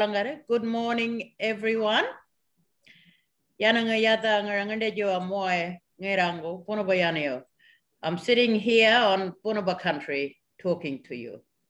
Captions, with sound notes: Good morning, everyone. (SPEAKS AN INDIGENOUS LANGUAGE) I'm sitting here on Bunuba country talking to you.